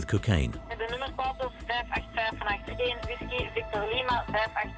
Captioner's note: Dutch spoken audio